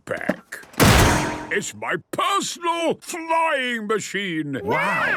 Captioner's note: clangs